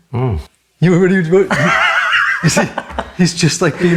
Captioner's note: laughs